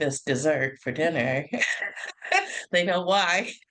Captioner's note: laugh